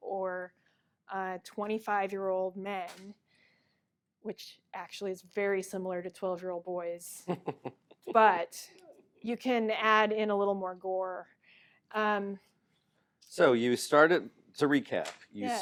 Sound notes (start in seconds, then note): 7.3 laughs